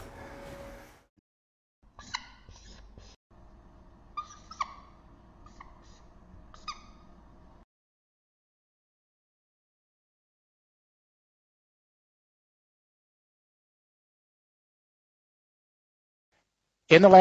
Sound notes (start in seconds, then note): 1.9 whiteboard marker squeaking